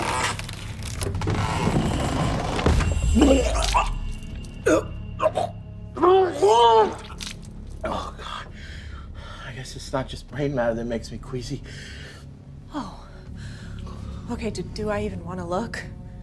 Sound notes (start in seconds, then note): 0.0 wood creaks and cracks; 3.4 Benny retches; 3.4 vomit splashes